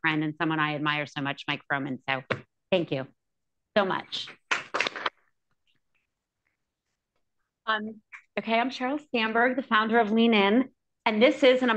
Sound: applause

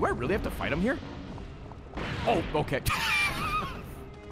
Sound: laughs

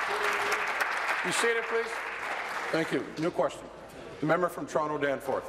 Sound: applause

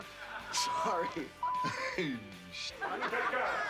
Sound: chuckles

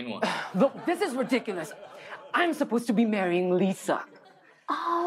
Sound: sighs

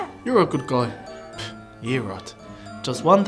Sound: exhaling

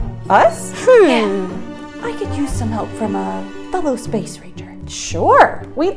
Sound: whispering

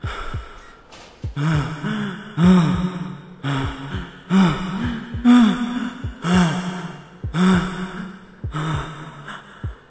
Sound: heavy gasping

